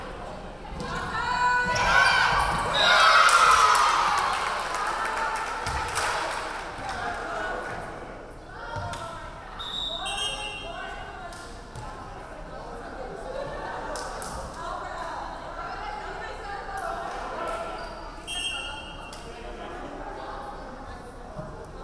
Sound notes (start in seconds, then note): 2.9 referee whistling; 3.1 crowd clapping; 9.6 referee whistling; 18.2 referee whistling